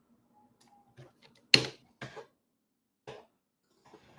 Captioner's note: keyboard clacking